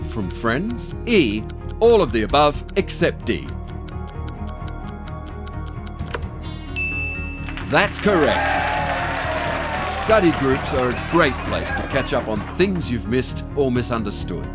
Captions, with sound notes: (Applause and cheers) Study groups are a great place to catch up on things you've missed or misunderstood